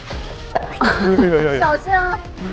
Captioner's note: sizzle